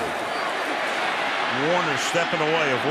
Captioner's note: cheering